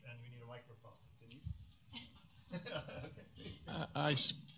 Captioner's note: laughter